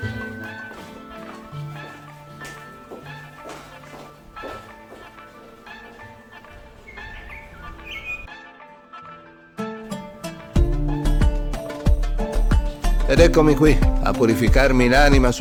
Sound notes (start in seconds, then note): 6.7 birds singing; 6.7 oriental music